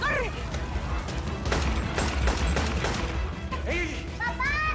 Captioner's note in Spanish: Disparos